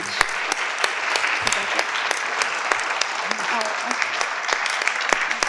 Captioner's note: participant applaud